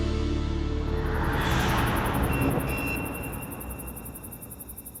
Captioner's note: insects chirping